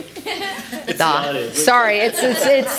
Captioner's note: laughter